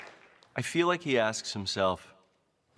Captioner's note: cheering and Applause